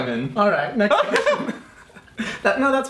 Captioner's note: laughs